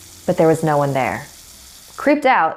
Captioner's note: water running